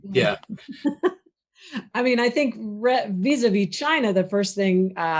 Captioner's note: laughs